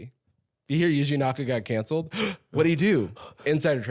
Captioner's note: gasps